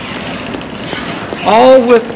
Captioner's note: wheels creaking